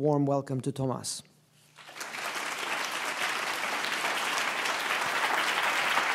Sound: applause

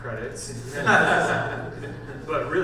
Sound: panel laughs

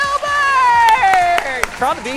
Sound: cheering

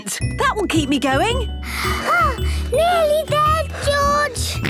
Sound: panting; snorts

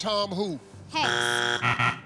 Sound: buzzer

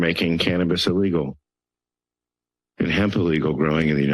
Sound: pause

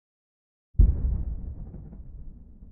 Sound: faint boom

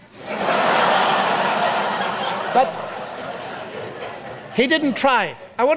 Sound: audience laughs

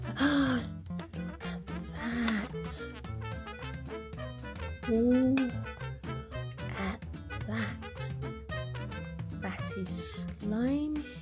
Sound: gasp

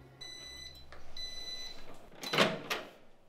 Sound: the microwave alarm goes off

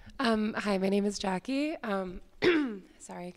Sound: clears throat

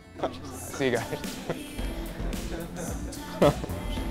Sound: laughs

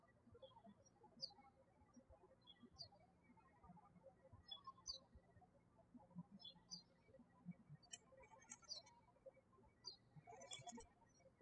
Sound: birds chirping

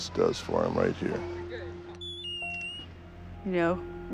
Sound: electronic squealing

